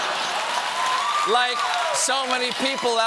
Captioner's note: applause